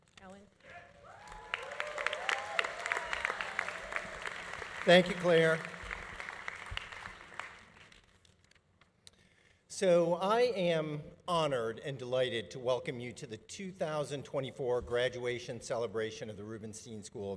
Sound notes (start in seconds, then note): 0.7 audience cheering; 0.7 audience applauding